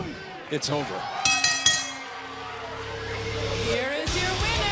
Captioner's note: bell ringing